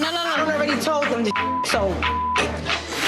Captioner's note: beep